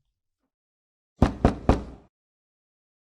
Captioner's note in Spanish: Golpean la puerta